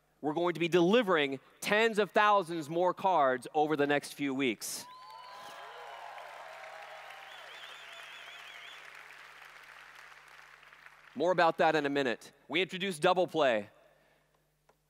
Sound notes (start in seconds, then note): 4.8 applause/Cheers